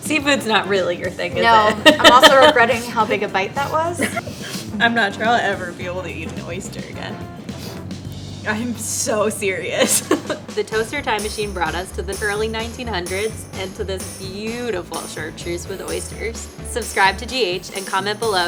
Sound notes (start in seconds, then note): 1.4 laughs; 9.7 laughs